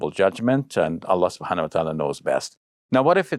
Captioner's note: speaking in foreign language